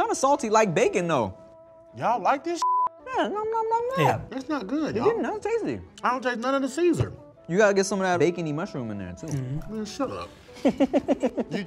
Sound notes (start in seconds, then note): 2.6 beep; 10.5 laughing